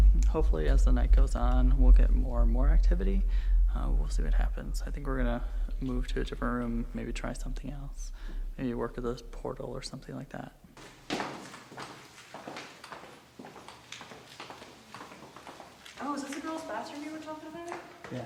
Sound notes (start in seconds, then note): 10.7 footsteps descending